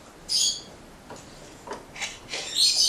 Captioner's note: bird chirps